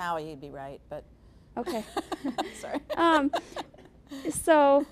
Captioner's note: laughing